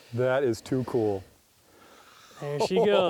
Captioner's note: voiceover